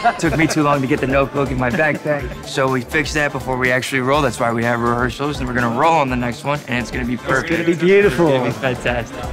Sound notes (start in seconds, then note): 1.4 laughing